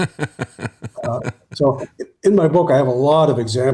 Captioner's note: laughing